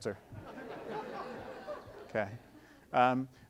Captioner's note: audience laughing